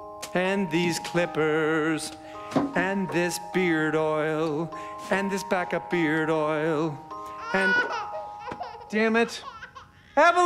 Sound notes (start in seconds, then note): 7.2 baby crying